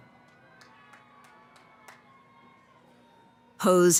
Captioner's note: cheering